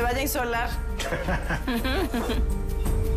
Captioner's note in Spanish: Risas